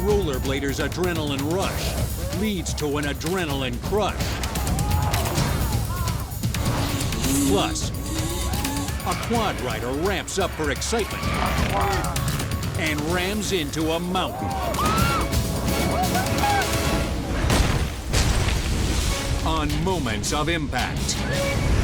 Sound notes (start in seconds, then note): 14.9 bike slams; 17.4 logo slams